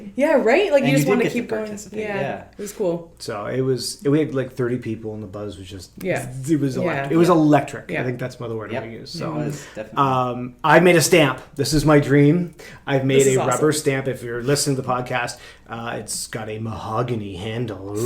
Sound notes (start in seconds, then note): 6.4 makes buzzing noise